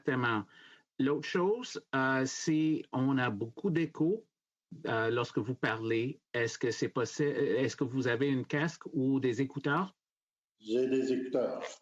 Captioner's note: speaking French